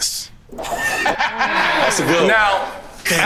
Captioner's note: laughing